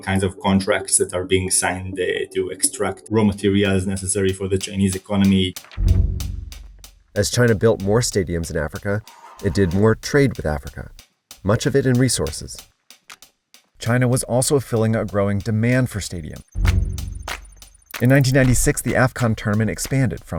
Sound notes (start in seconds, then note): 5.7 mysterious music; 12.6 energetic sticks clicking